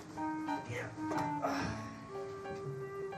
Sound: grunts, sighs

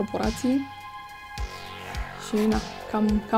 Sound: sighs

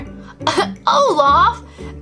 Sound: chuckles

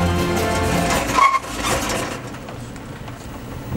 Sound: engine dies

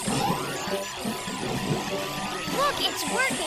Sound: vacuum Whooshing

